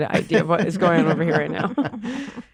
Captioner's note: laughter